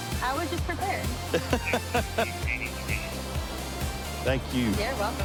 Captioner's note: laughing